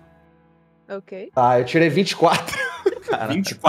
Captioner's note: laugh